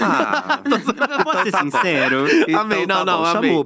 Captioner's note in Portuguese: risos